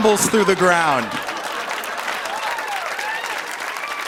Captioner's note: laughter, applause